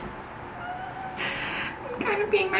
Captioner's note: squeals